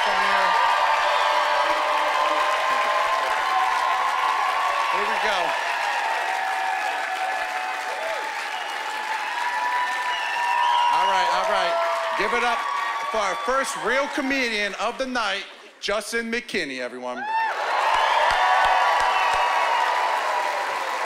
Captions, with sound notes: They're a lot funnier. (cheering and whooping) Here we go. (cheering and applause) All right, all right. Give it up for our first real comedian of the night, Juston McKinney, everyone. (cheering and applause)